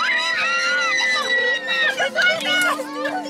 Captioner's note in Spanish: Gritos